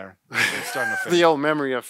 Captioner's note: laughs